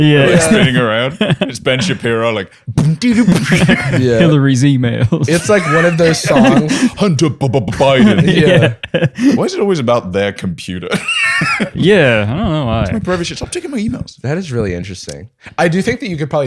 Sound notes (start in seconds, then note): 2.8 beatboxing; 10.9 laughing